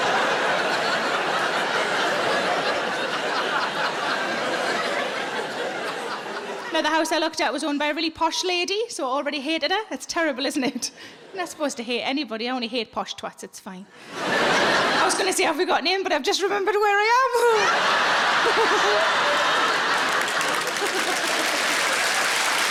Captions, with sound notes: Now the house I looked at was owned by a really posh lady, so I already hated her. It's terrible, isn't it? I'm not supposed to hate anybody. I only hate posh twats, it's fine. (audience laughing) I was gonna say, "Have we got name, but I've just remembered where I am." (all laughs) (audience clapping)